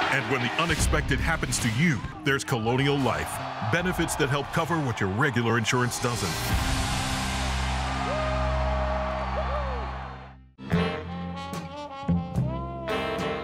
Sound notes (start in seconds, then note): 6.8 cheering; 10.6 jazz music